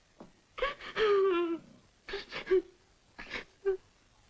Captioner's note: The Angel crying